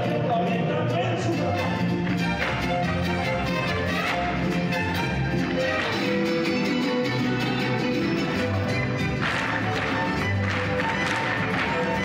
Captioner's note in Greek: χειροκρότημα